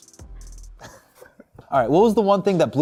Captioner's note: laughs